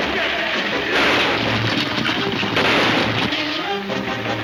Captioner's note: gunshots banging